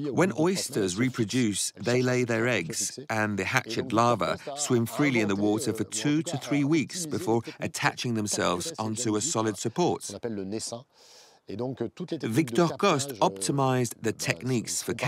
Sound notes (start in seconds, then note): 10.5 speaking in foreign language